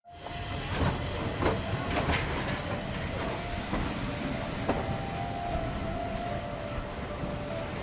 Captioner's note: steam train